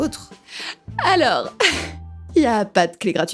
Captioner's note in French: rire